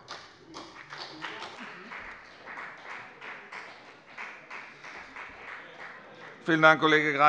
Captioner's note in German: Beifall bei der FDP